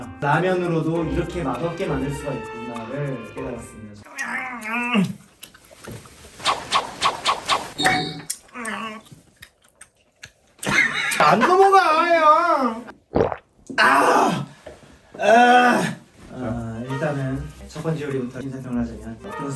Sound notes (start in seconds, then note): 4.2 chewing endlessly like it’s gum